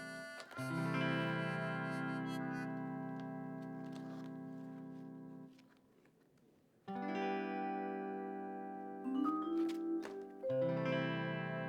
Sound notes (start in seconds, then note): 4.0 photos rustling